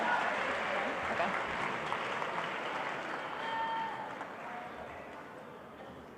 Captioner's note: applause continues